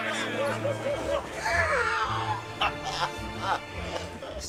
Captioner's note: laughing